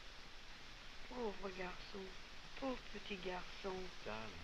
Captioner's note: girl speaking french